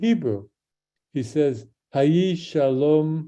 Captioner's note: speaks in Hebrew